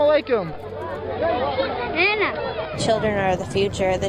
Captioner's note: locals speaking in foreign language